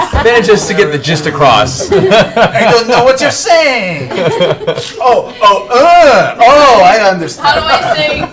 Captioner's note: French accent